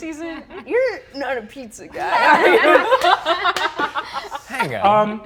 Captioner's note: all laughing